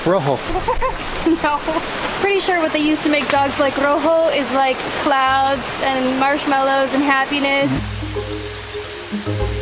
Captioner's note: laughter